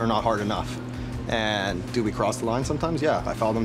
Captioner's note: none